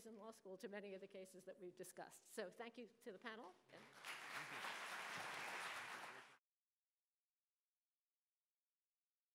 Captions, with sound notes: in law school to many of the cases that we've discussed. So thank you to the panel. (audience applauding)